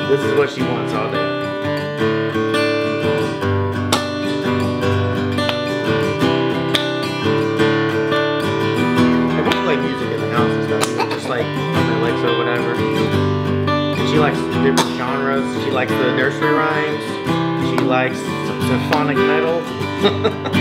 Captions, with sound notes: This is what she wants all day. (gentle guitar music) (hands clapping) And we'll play music in the house and stuff just like on the Alexa or whatever. She likes different genres. She likes the nursery rhymes. She likes symphonic metal. (laughs)